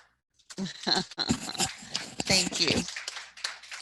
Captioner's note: board members clapping